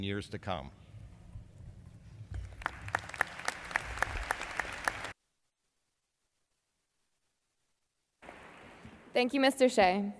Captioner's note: applause